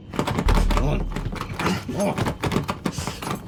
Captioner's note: door rattling